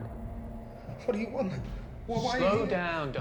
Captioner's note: thudding footsteps